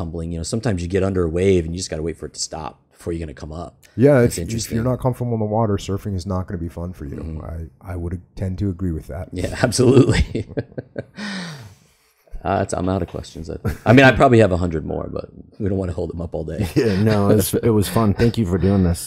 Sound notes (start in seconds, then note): 9.6 laughs